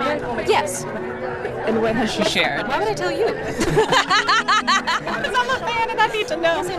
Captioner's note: laughs